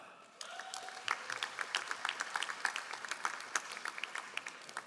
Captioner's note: all applauding